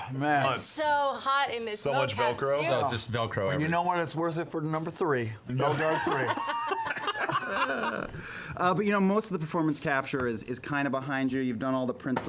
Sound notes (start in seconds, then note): 5.6 laughter